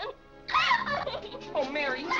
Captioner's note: Mary cries